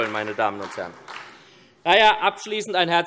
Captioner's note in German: Beifall SPD